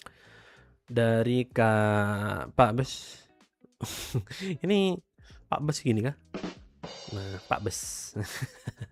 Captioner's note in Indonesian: tertawa